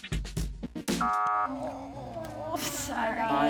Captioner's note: buzzer goes off